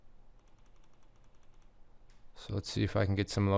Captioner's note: mouse clicking